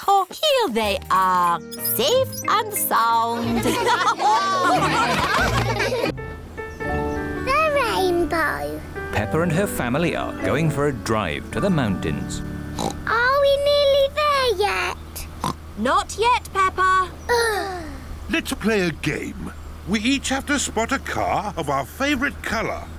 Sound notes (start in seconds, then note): 3.3 laughter; 12.7 oinks; 15.4 oinks; 17.3 both sigh